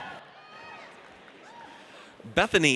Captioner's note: audience cheers